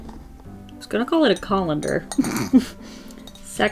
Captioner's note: laughs